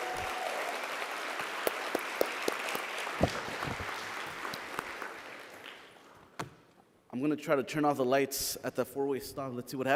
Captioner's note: applause